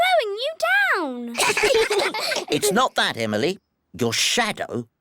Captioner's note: all giggle